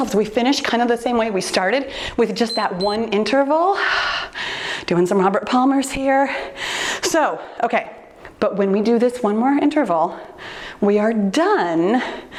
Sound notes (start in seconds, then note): 2.4 timer beeps